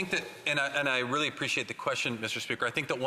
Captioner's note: speaking French